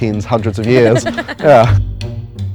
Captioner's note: woman laughs